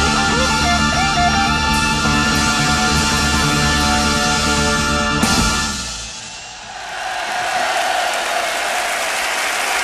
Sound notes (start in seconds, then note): 6.3 audience cheering